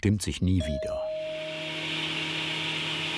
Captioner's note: machine noise